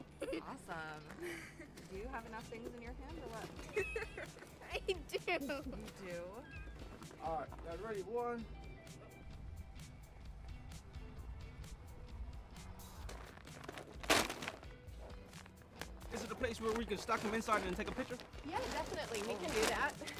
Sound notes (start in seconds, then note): 9.7 soft rock music playing; 13.0 bags dropping